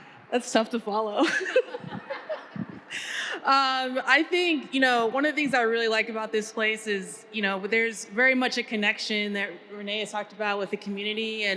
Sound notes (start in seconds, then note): 1.2 panelists laughing